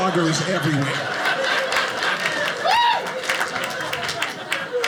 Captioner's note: audience laughing